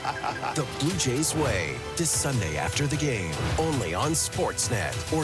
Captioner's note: laughter